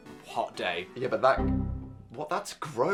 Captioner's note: tone dings